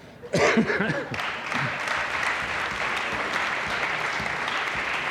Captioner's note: audience applauding